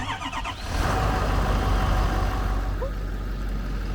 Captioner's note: engine cranks and starts running